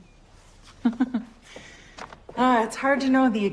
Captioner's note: laughs